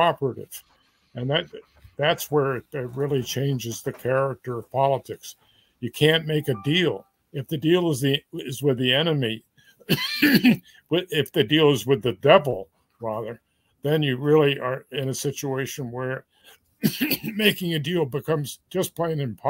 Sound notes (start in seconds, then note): 9.8 cough; 16.8 cough